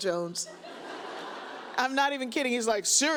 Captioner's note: audience laughs